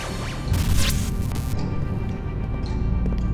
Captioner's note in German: aufregende Musik; Glitch